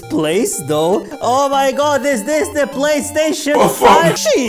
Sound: alien noises

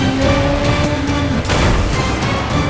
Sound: thudding

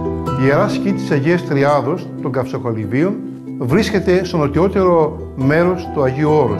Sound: speaks in foreign language

